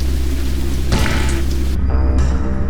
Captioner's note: suspenseful music and rustle of rain; donk; suspenseful music